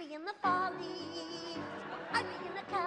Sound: laughter

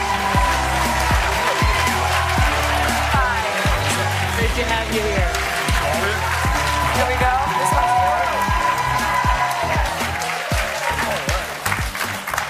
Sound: applause

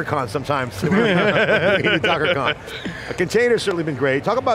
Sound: laughing

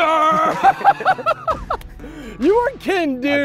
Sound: laughing

